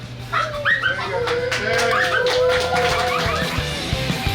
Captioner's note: cheering & Clapping